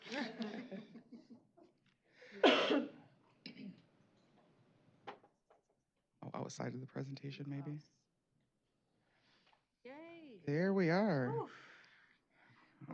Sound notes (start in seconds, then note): 0.0 laughter; 6.3 indistinct chatter